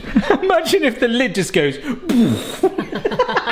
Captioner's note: laughs